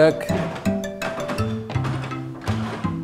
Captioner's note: creaking